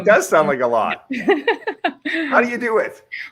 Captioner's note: laughs